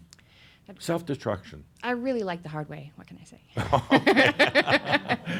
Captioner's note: they chuckle